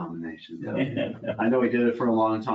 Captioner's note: laughs